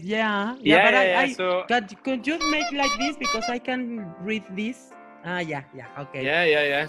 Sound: horn sound

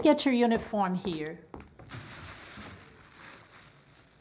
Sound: plastic wrapping

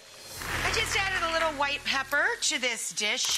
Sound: audience applauding

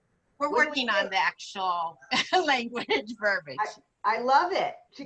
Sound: laughter

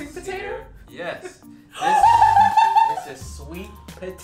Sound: screaming

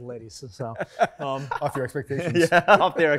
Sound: laughter

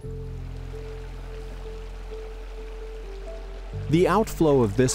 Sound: water rippling

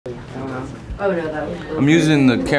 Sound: people chattering

